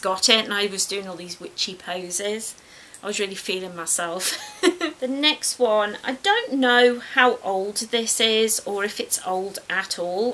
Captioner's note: laughs